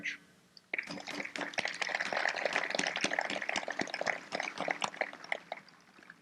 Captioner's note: applause